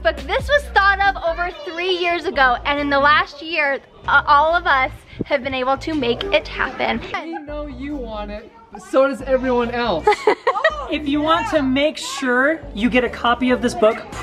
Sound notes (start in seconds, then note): 10.0 woman laughs